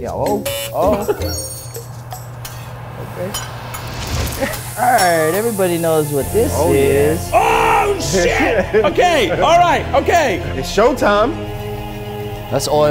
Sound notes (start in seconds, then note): 4.3 hibachi sizzles